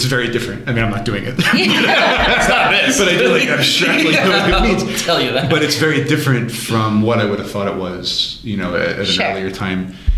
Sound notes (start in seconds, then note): 1.3 laughter